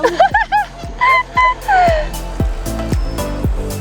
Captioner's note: laughter